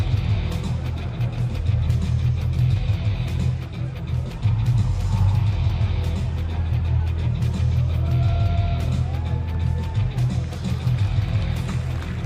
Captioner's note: cheers and applause